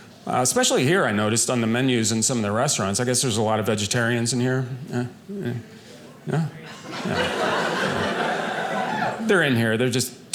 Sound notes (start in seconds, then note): 6.6 audience laughing